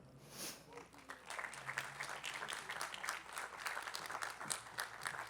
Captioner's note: attendees clapping